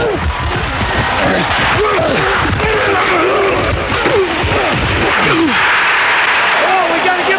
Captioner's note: grunting